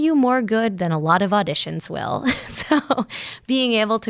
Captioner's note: laughing